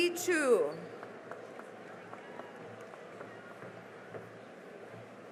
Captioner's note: cheering and applause